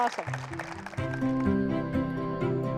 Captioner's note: applause; light music